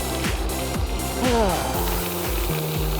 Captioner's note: sighs